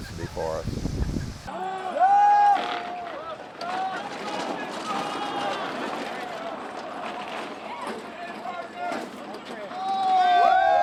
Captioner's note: marching and cheering